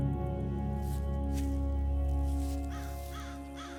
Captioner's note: grass crunching; bird cawing